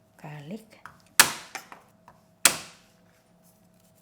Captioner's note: pounding